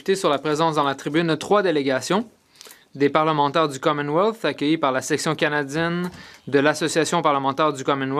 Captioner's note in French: voix de l'interprète